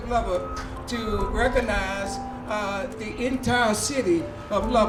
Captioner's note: mechanism beeping distantly